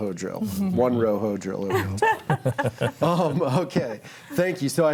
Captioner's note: group laughing